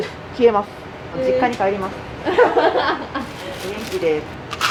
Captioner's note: laughter